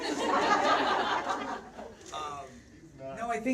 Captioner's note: audience laughs out loud